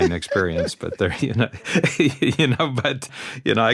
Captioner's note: laughter